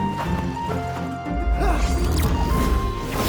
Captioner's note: grunting